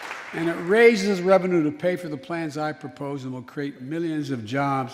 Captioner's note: applause